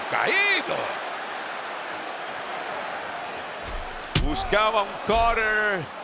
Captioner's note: applause